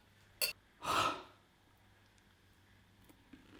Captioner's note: exhales; chewing